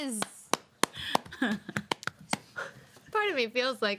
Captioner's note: women clapping